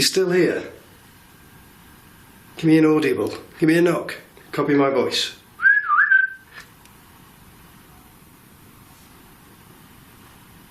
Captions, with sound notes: Are you still here? Give me an audible, give me a knock. Copy my voice. (whistling)